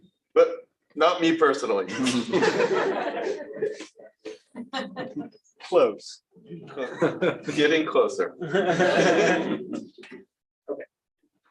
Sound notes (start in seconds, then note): 1.9 laughter; 6.6 laughs; 8.4 laughter